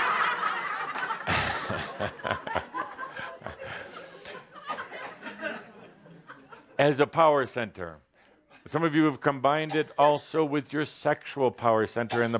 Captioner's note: some laughter; much laughter